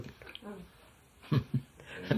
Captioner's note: laughs